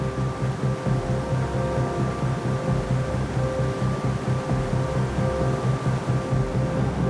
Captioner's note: water rushing